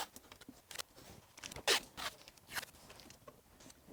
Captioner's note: tape swishing